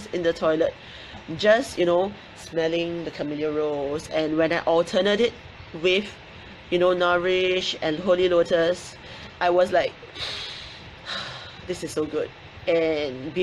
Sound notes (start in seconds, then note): 10.1 inhales